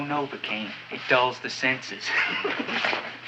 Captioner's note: chuckles